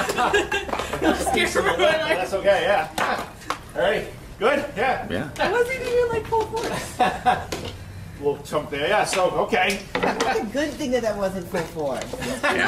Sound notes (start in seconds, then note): 0.0 laughs; 0.0 laughter and inaudible conversations; 6.6 laughs